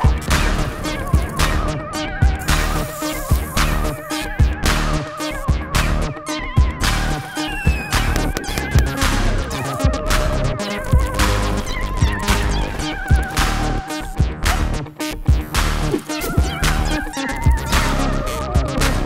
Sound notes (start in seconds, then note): 0.1 upbeat digital music; 7.1 popping